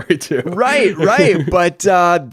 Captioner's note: laughs